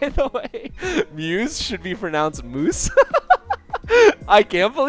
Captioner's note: laughs uncontrollably